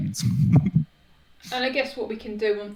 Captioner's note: chuckles